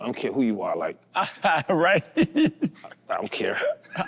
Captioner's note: laughs